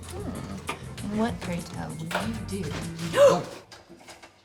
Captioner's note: gasps